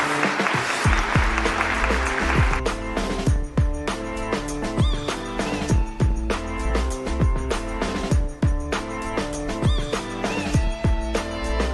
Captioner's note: applause